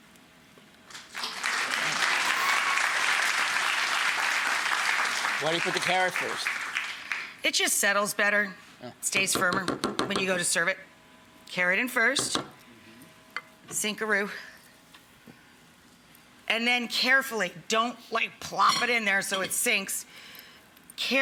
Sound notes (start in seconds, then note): 0.9 audience applauding